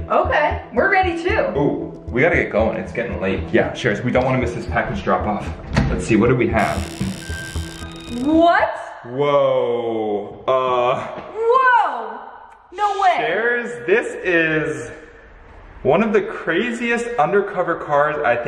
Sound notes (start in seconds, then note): 6.6 door creaks